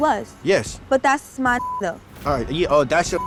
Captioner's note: beep